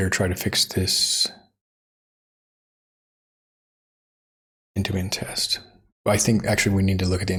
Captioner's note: blank Audio